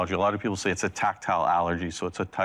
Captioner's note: none